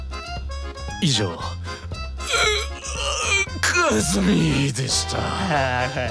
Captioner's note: ugh